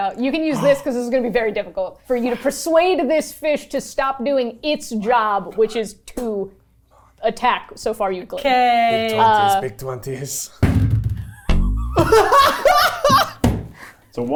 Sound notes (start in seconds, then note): 10.6 die thuds; 11.3 everyone laughing